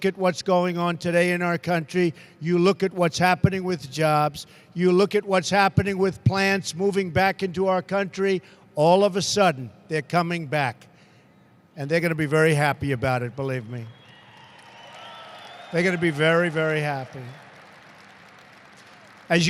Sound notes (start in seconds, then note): 13.9 applause